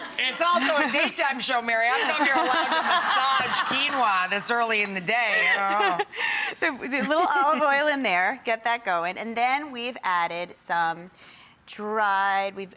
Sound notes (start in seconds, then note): 5.3 laughing